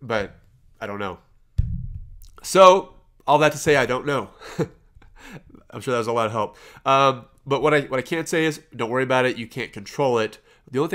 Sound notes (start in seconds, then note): 4.5 laughs